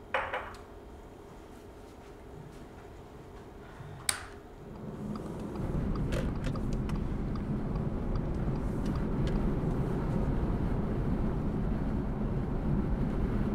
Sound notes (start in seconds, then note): 4.7 turn signal clicking; 9.2 clicking stops